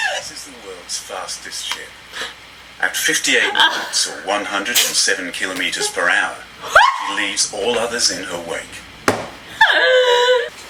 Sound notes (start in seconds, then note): 2.1 gasps; 3.3 both laugh; 9.4 both laugh